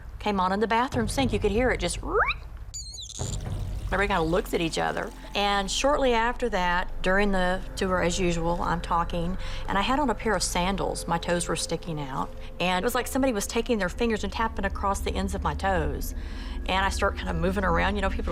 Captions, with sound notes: and the water came on in the bathroom sink. You could hear it just-- [squeaks] [faucet squeaking] Everybody kind of looks at each other, and shortly after that, during the tour, as usual, I'm talking. And I had on a pair of sandals. My toes were sticking out, and it was like somebody was taking their fingers and tapping across the ends of my toes. And I start kind of moving around.